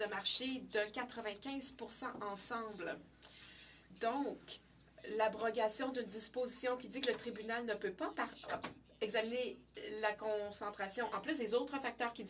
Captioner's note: speaking French